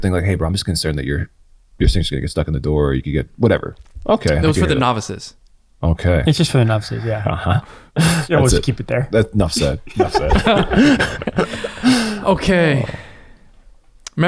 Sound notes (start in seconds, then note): 9.4 all laughing